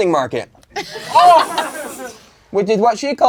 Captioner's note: crowd laughing